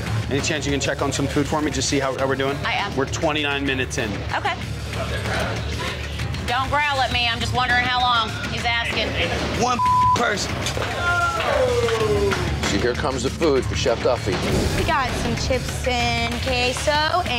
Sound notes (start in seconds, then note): 9.7 beep